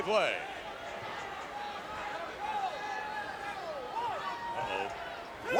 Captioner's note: crowd clamors